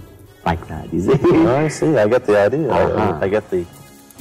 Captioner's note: laugh